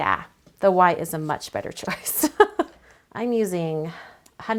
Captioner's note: giggles